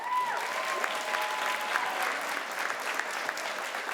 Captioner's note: crowd applauds